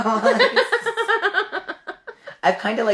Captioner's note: laughing